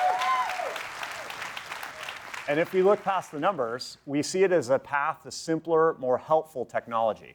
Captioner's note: cheering and Applause